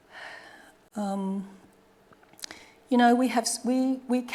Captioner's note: sighing